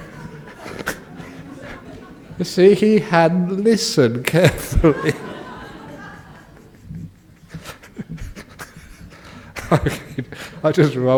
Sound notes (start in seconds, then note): 8.5 laughter